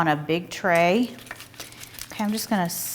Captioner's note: ingredients mixing